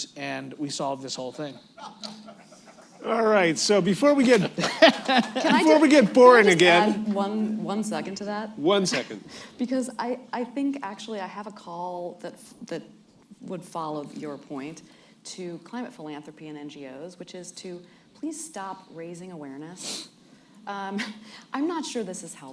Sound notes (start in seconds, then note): 4.2 laughter